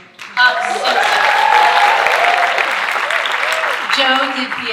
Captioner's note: audience cheering and applauding